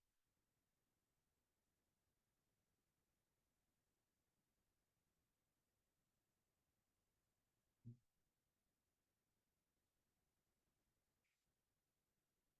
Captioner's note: silence